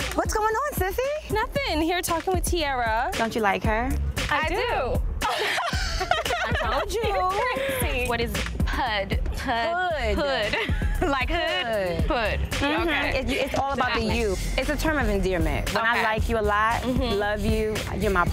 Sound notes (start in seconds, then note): 5.2 both laughing